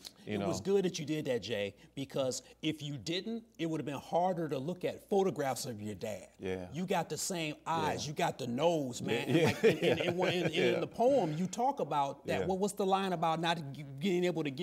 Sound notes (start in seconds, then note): 9.2 laughs